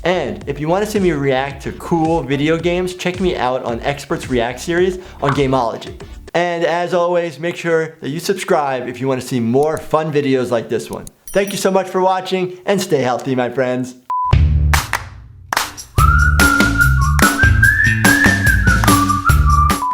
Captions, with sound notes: And if you want to see me react to cool video games check me out on Experts React series on Gamology. And as always make sure that you subscribe if you want to see more fun videos like this one. Thank you so much for watching, and stay healthy my friends. (quick beep) (upbeat whistling music) (quick beep)